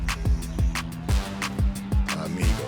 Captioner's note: laughs